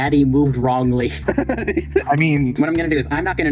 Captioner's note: room-leaving noises